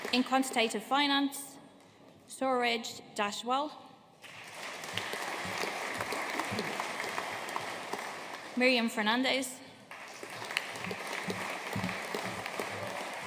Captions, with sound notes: In Quantitative Finance, Suraj Deshwal. (AUDIENCE APPLAUDING) Miriam Fernandes. (AUDIENCE APPLAUDING)